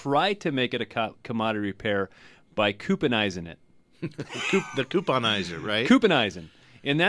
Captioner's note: both laugh